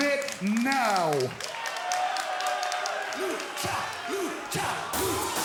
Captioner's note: crowd cheering